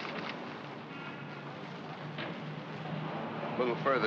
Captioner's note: paper rustling; city street sounds